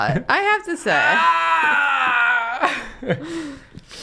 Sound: pained scream

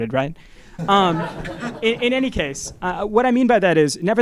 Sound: laugh

